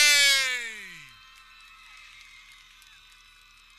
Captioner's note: people cheering